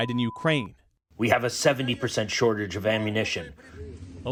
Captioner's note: through translator